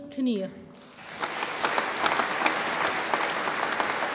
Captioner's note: audience applauds